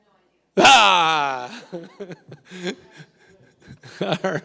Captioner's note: laughs